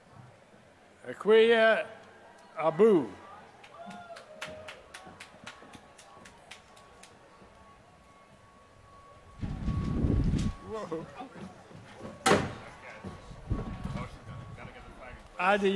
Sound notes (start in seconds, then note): 3.6 applause